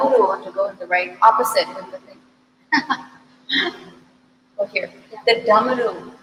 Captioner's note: laughs